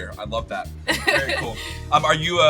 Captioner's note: laughing